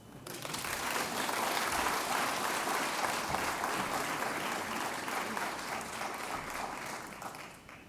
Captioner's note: applause